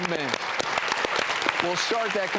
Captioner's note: audience applauding